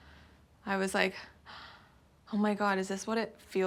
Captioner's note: low gasp